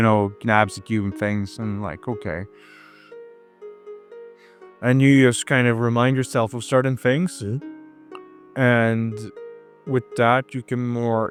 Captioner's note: breathing in